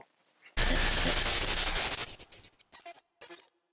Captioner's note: static